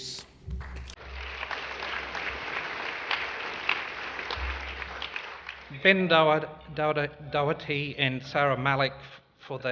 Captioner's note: applause